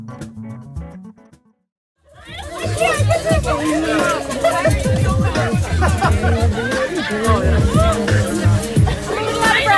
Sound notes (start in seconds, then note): 2.0 people chattering; 2.1 dance music